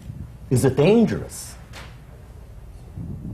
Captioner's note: none